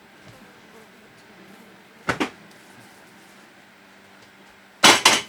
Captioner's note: fly buzzing